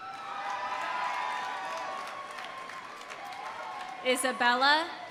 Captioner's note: audience applauding; audience cheering